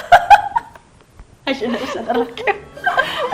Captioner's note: laughs